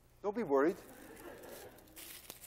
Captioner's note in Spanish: Clase ríe